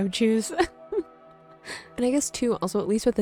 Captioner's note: giggling